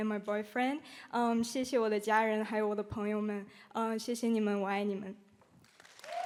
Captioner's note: speaking Chinese; audience applauding